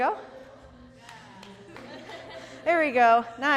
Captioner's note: laughter